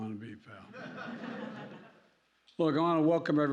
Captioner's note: laughter